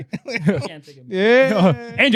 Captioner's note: laughing